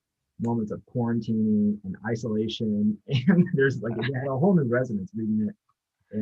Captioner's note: chuckles